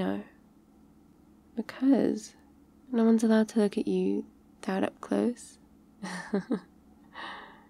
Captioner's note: laughs